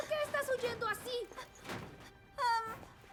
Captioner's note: panting